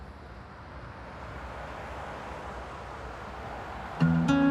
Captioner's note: cars passing